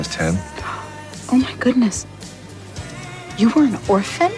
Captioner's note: gasps